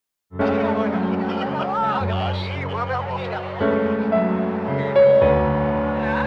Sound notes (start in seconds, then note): 0.4 people chattering in foreign language; 2.8 contemplative music